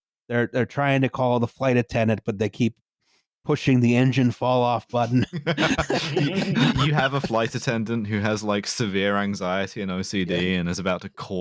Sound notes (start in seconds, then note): 5.0 laughter